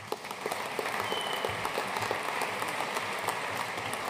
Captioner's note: audience applauding